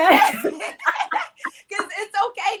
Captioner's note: ladies laughing